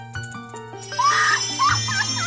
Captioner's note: laughing